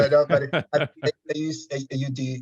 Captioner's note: audio distortion